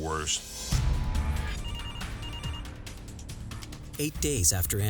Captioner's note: phone ringing